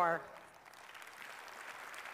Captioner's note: applause